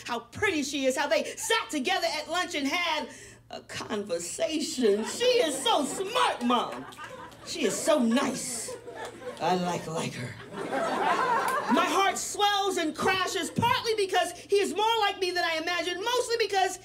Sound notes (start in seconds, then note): 6.3 audience chuckles; 8.9 audience laughs